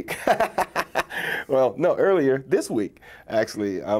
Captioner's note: laughs